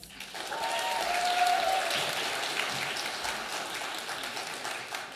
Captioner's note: audience applauding